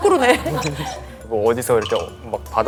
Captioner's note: haha